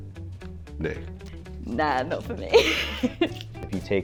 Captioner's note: laughs